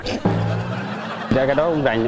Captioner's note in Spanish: risas